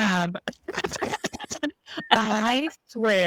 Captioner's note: both laugh